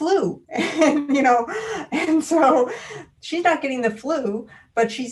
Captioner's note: laughing